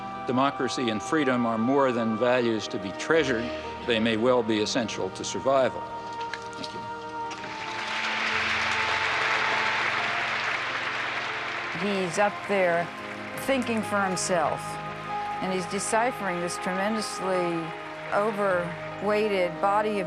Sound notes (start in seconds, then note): 7.6 audience applauding; 7.6 gentle music